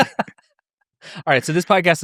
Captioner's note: laughs